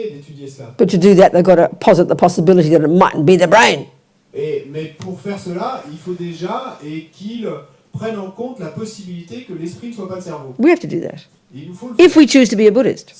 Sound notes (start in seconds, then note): 4.1 audience member speaks in French